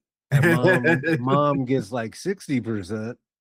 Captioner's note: laughing